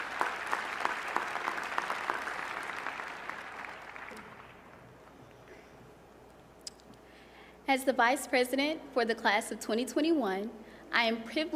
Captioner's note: applause